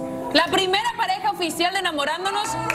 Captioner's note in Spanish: aplausos